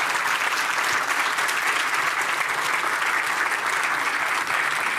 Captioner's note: applause